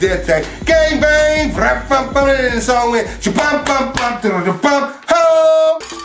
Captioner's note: imitates drums